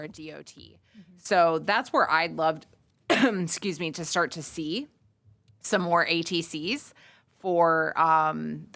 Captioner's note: cough